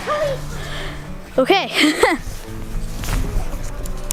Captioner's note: laughs